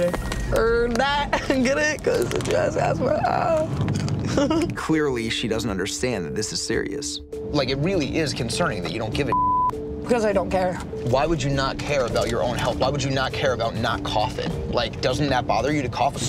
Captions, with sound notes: Heard that, get it, 'cause she has asthma, aah. (laughs) - Clearly she doesn't understand and this is serious. Like it really is concerning that you don't give a (beeps). - 'Cause I don't care. - Why would you not care about your own health? Why would you not care about not coughing? Like doesn't that bother you to cough?